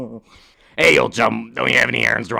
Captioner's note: laughing